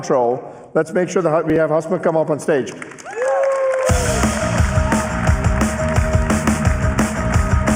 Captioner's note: cheers and applause